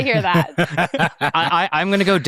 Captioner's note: participants laughing